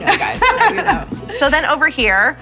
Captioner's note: laughing